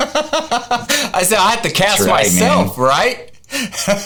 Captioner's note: laughing